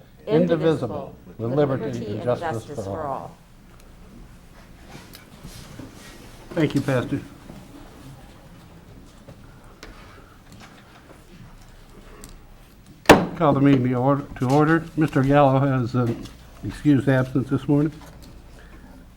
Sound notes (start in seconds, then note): 13.1 gavel hitting on sound block